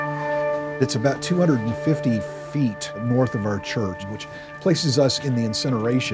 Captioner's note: none